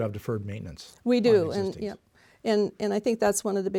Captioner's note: mumbles